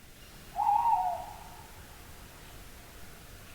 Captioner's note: owl hooting